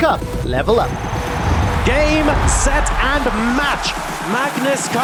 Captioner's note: crowd cheering